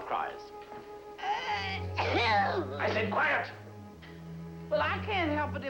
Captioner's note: sneezing